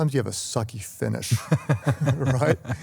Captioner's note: laughter